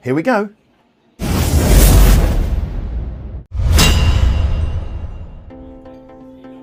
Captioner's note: dramatic music; logo clanging; upbeat music